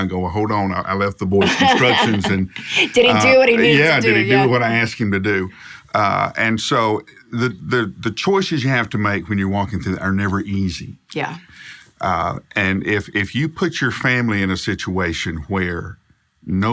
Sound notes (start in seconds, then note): 1.4 laughs